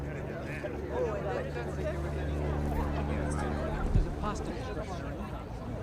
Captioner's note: indistinct chatter